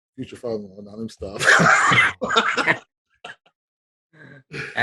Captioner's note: laughing